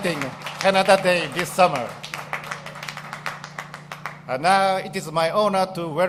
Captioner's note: applause